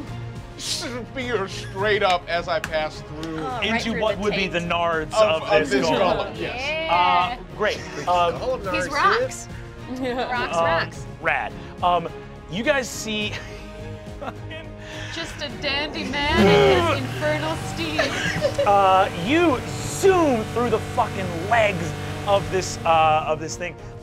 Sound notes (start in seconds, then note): 10.3 Kristen chuckles; 14.1 chuckles